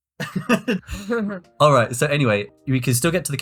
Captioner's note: both laugh